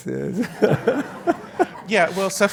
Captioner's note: laugh